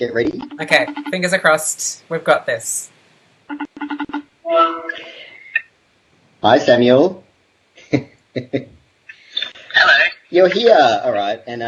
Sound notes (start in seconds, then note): 8.4 laughs